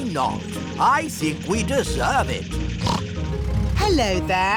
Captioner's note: snorts